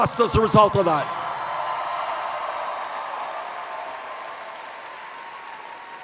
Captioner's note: cheers